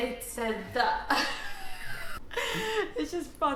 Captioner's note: laughing